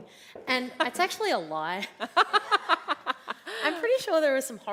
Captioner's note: laughs